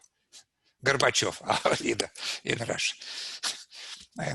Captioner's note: laughs